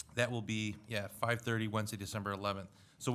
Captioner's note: none